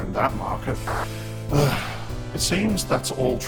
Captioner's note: sighs